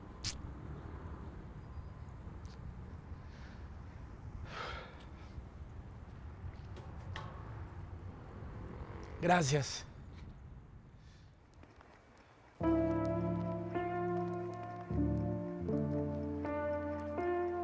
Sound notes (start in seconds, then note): 4.5 sharp exhale; 12.6 somber music